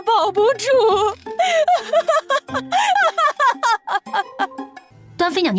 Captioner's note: maniacal laughter